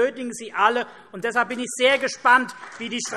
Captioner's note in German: Vereinzelter Beifall CDU und BÜNDNIS 90/DIE GRÜNEN